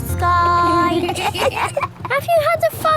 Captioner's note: kids giggling